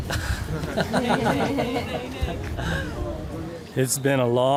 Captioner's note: both chuckling